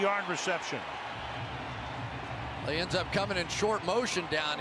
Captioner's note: cheering